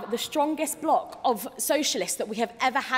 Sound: none

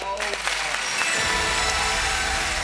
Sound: applauding; chiming

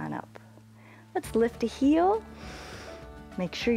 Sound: inhales

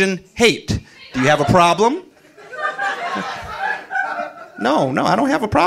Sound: audience laughing

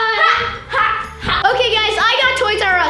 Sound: laughing

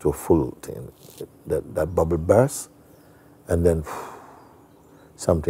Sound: atmet aus

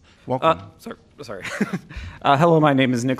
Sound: laughter

